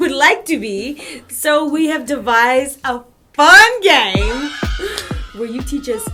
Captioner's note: cheering